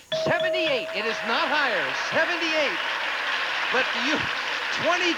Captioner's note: audience applauding